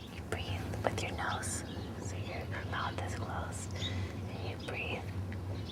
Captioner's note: whispers